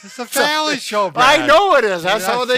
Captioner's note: laughs